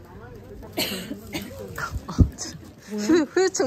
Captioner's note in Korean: 콜록콜록